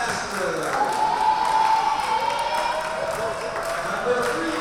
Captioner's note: crowd cheering